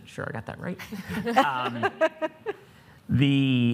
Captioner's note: audience laughing